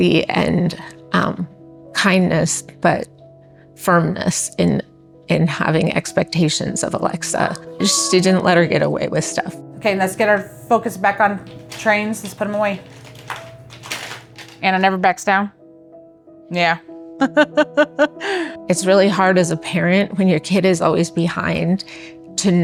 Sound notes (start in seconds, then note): 17.2 laughs